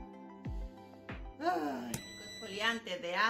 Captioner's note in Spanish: suspiro hondo; sonido: piiiiii